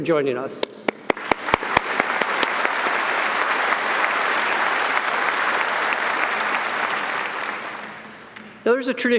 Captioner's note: audience applauding